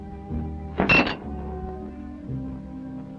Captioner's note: clanks